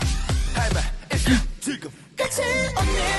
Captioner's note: gasp